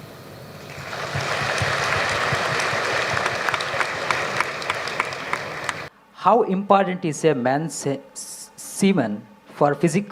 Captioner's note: applause